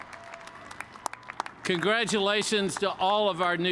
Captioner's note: cheers and applause